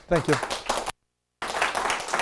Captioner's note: applause